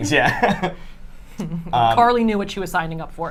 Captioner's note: laughs